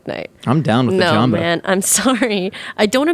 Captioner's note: laughing